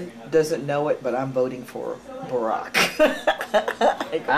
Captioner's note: laughing